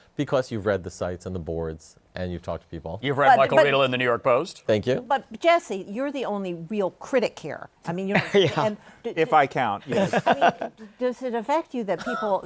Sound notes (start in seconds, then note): 9.8 laughter